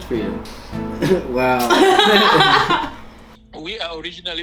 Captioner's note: laughter